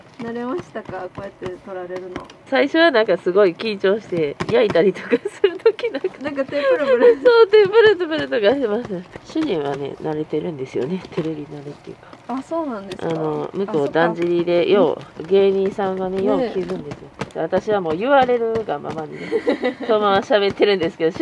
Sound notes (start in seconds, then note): 8.4 laughter